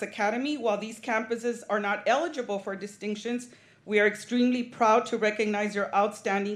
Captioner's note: none